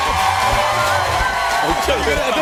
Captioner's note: cheers and applause